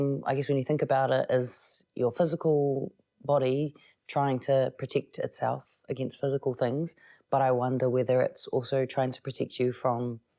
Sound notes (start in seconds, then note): none